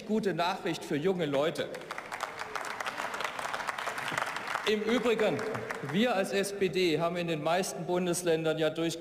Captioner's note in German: Beifall